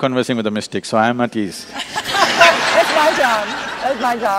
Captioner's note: laughter